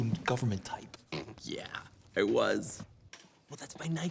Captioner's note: snorts